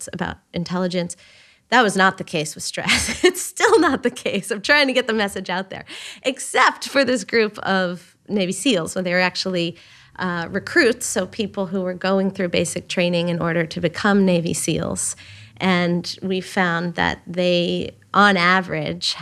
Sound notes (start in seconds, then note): 2.9 chuckles